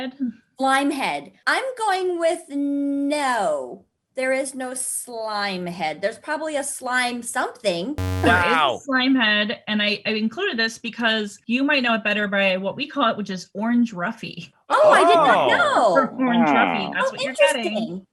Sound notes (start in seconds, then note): 8.0 error sound